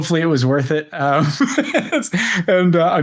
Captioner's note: laughs